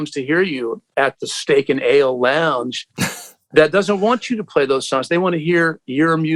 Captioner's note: laughter